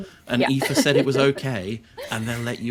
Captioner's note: laughs